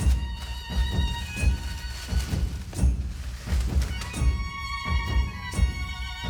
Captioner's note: plastic crinkling